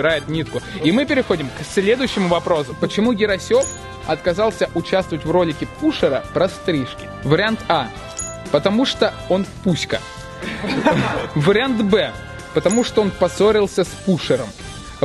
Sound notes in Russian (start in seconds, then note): 10.4 смеются